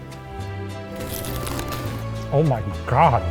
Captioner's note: crunching tacos